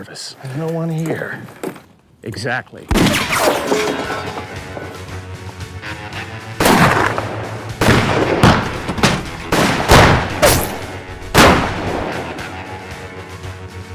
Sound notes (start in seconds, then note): 2.9 gunshot; 8.3 gunshots